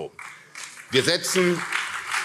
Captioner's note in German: Beifall CDU und SPD